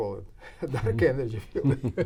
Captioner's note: laughs